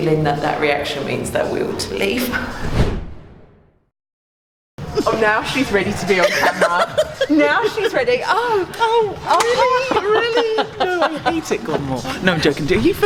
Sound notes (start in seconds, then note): 2.4 air whooshing; 5.9 laughing